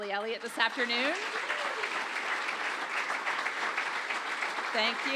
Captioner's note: audience applauds